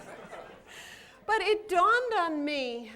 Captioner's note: laughter